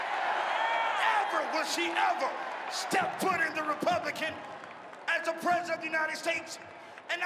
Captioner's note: cheering and applause